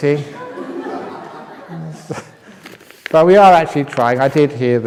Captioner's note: laughs